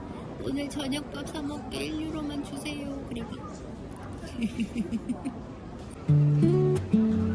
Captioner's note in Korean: 하하